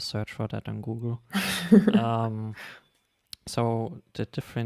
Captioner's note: laughing